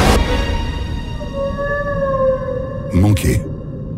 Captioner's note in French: Chant d'un rorqual